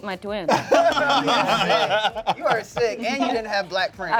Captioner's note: laugh